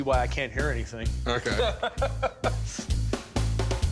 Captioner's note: laughing